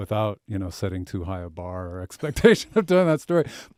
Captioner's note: chuckles